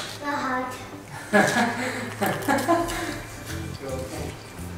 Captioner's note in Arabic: يضحك